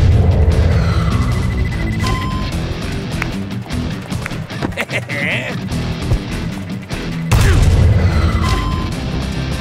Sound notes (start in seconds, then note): 0.9 target beeps; 4.5 El Matador laughs